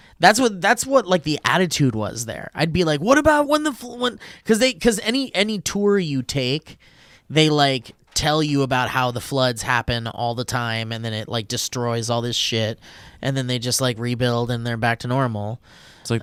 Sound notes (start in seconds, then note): none